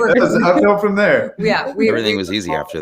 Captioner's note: laughing